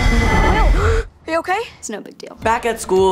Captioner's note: gasp